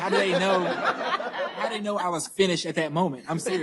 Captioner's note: laughter